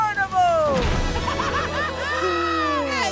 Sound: cheering

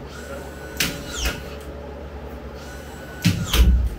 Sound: nail gun thumping

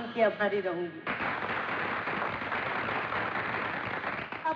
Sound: crowd Applauding

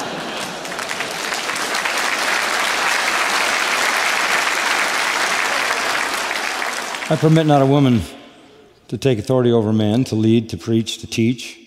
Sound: applause

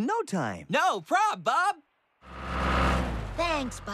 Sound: engine Revs

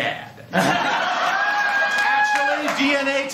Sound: laughter

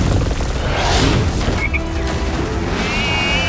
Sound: ground rumbling; Froggy croaks

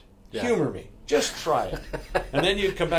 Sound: laughs

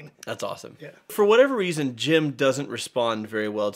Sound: none

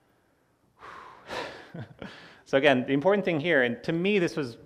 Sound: laughs

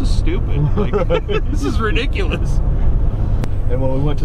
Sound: laugh

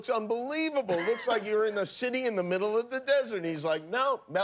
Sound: laughter

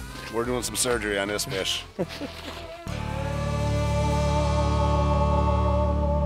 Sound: laughing

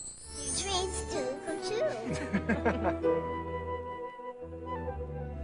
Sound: man laughs

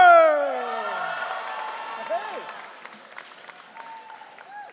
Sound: audience cheering

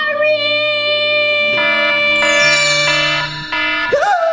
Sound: alarm beeping

